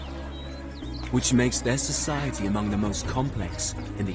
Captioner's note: elephants trumpeting